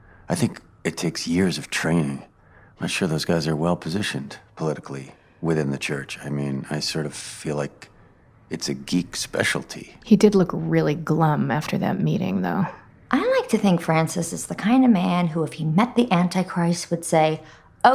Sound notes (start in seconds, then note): none